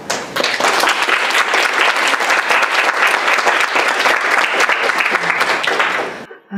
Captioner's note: applause